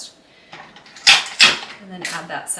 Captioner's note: dispenser clacking